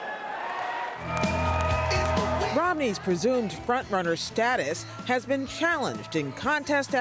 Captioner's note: cheering and applause